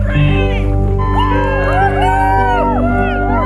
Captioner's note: cheering